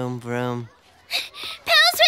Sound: panting

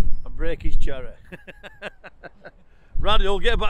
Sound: laughter

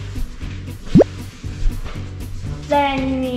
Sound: bloop noise

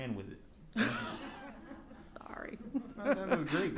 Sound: laughing

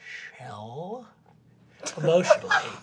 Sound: laughter

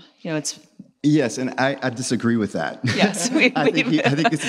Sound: laughs

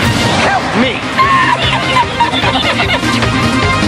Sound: laughs

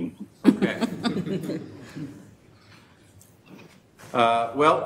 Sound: audience laughing

